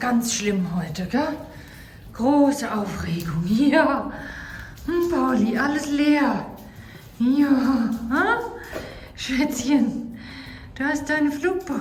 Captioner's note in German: japst